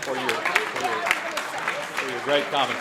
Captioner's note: applause